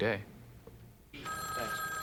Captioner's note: phone rings